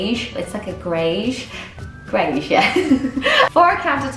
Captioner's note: laughing